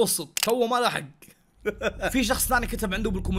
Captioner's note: laughs